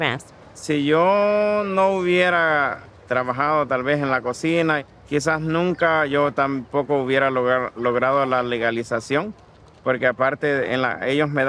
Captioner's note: speaking in foreign language